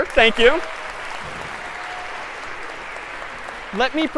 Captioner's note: applause